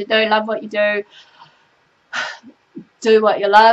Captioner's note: sighs